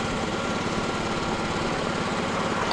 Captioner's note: hammer tapping